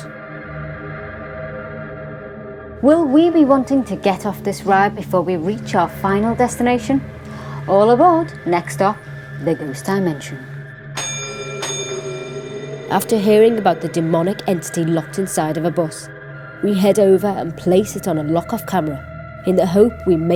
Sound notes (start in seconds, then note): 0.1 dramatic music; 10.8 bell ringing